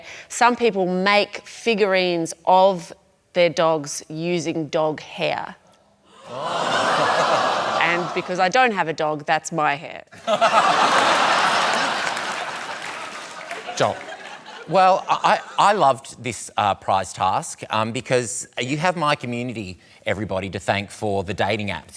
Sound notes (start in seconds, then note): 6.1 exclamations, laughter; 10.1 laughter